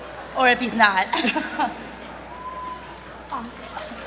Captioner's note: laughs; applause